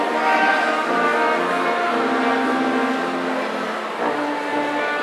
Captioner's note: audience cheering